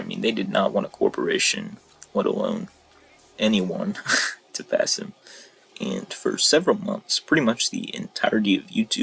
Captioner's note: another cringey scoff